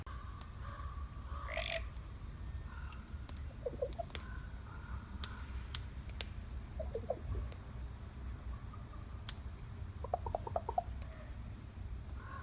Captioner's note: bird